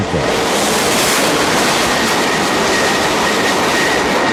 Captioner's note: aircraft whirring